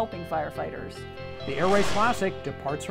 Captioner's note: whooshing